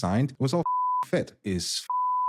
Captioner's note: beep